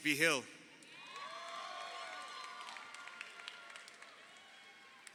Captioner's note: crowd cheering